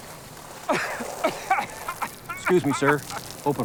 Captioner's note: coughing